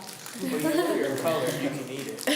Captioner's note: laughs